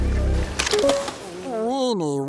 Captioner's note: click